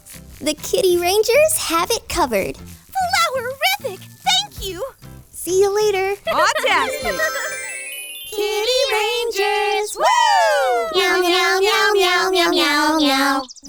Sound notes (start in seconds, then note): 6.2 laughs